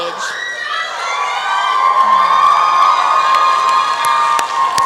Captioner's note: applause and cheering